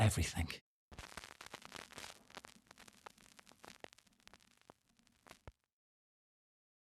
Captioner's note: record scratching gently